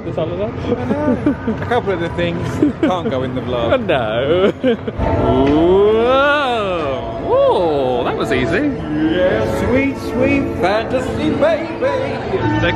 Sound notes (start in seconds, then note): 3.6 laughs